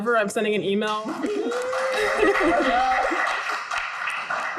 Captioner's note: group applauds